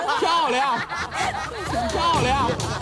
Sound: burst into laughters

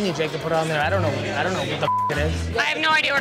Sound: beep

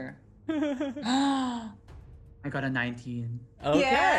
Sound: gasps

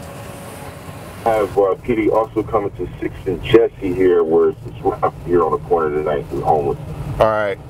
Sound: police radio chatter

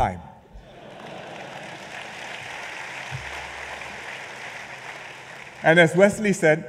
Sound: laughter and applause

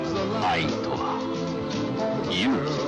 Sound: narrator, in Japanese

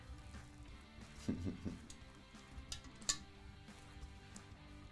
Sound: chuckling

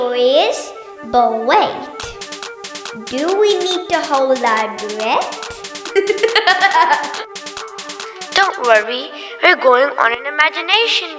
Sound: laughs

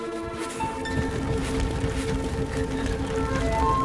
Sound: both panting

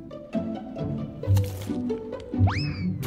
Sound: crunches violently

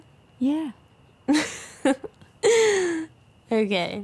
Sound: giggles

